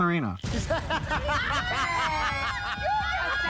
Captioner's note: laughing